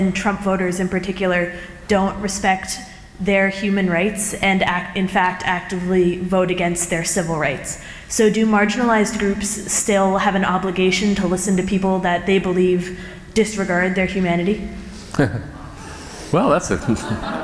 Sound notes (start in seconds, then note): 15.0 chuckle; 16.6 laughter